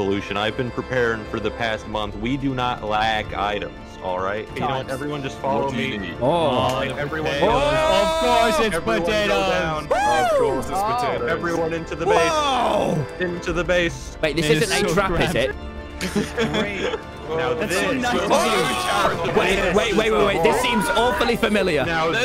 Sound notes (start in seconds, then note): 16.0 laughs